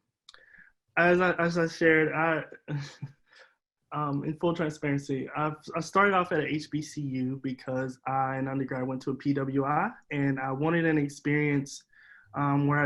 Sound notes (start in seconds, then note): 2.6 chuckles